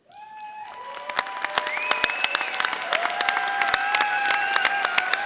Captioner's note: audience applauding